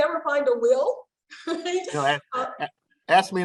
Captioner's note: laughter